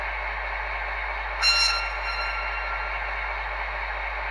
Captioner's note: short signal